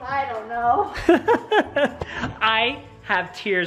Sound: laughs

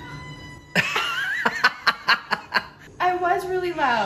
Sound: both laughing

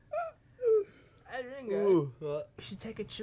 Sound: yawn

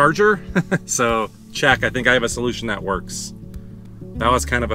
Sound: chuckle

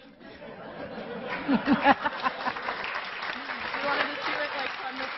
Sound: laughing and clapping

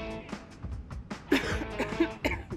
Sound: coughs politely

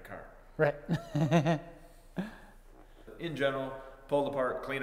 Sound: laughing

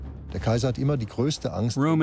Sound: speaking German

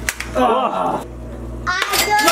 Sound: groan; cheer

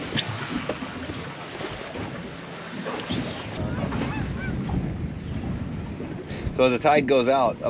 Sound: reel spinning

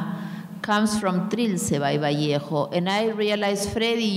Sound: speaking in a foreign language

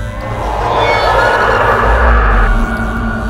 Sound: shrieks

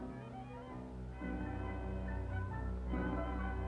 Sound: none

